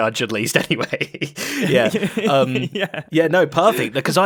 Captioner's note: laughs